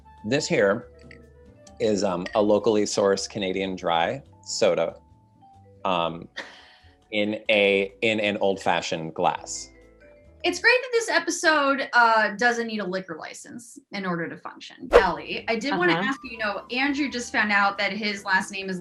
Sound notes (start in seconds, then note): 5.5 laughs